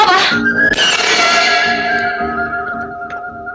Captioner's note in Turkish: Kırılan gözlük camı şıngıtrısı